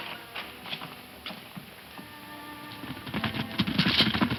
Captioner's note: hooves thumping